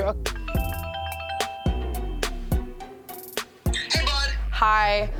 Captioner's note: phone ringing